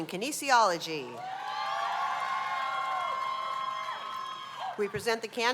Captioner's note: cheers and applause